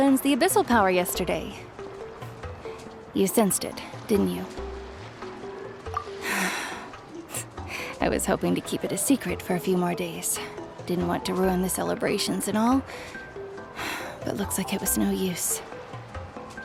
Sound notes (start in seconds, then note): 6.2 sigh